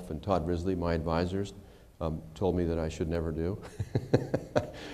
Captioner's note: laughter